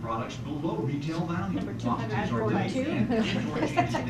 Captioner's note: laughs